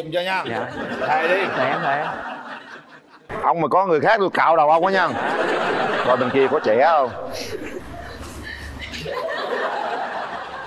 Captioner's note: laughter